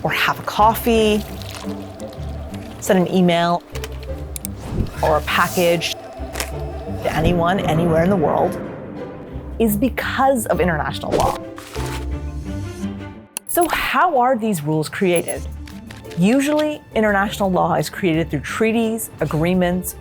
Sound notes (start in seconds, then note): 1.3 phone ringing